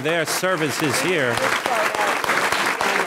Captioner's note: audience clapping